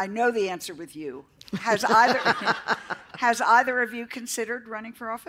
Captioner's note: laughter